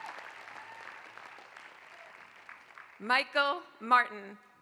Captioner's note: applause